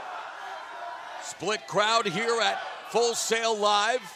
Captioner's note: fans chanting